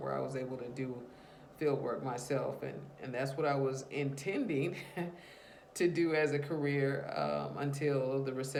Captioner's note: laughs to herself